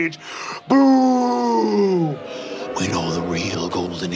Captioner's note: crowd booing